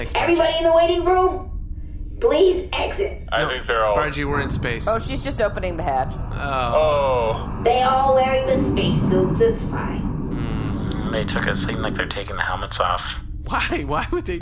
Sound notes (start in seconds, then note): 4.9 hatch clunking; 6.5 AJ and Pleck make dismayed noises; 10.2 Pleck hums unhappily